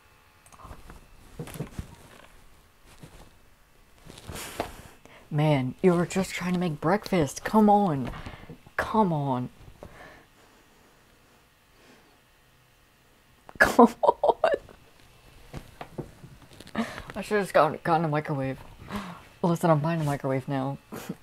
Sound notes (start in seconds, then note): 4.2 gasp; 13.6 laughter